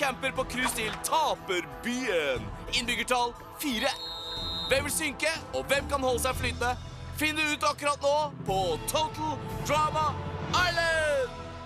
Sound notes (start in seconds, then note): none